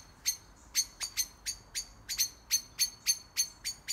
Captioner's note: birds chirping